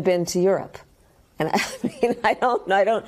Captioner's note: laughter